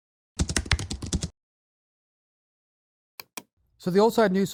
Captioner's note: keyboard clacking